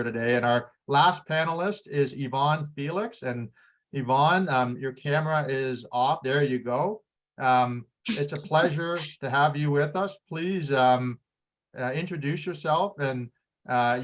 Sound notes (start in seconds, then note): 8.1 laughs